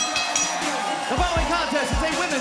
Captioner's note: bell ringing